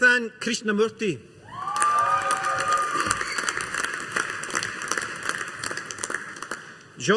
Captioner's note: audience applauding